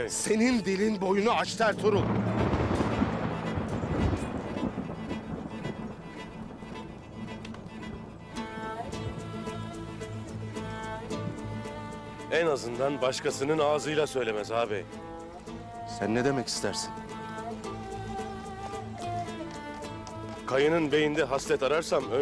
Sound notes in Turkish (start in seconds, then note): 1.6 Gök gürültüsü efekti; 7.1 Müzik - Gerilim